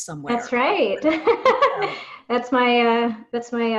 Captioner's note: laughing